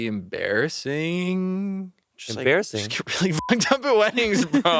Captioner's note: beeping